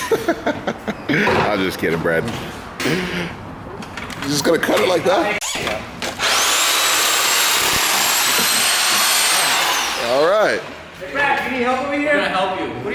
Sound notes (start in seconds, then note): 0.0 laughter; 6.1 saw runs loudly